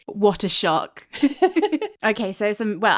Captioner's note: laughing